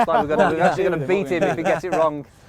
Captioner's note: laughs